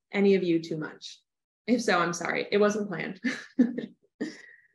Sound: laughter

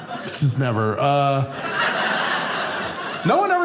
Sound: audience laughing

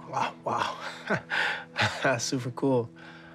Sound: chuckles

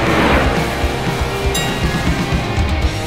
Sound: bell dinging

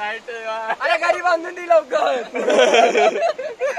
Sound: in Jealous Tone; all are laughing

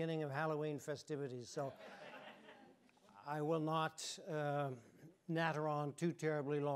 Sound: audience chuckling

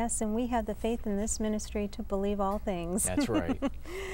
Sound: laughter

